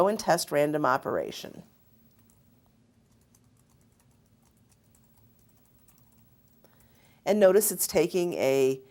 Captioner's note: typing